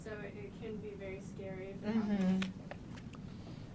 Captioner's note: mumbling